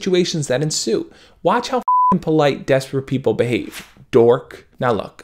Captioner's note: beep